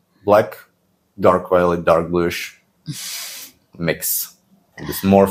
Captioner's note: laughs